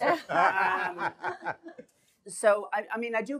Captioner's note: laughter